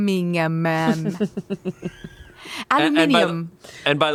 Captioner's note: laughs